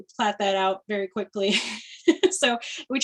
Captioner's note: laughter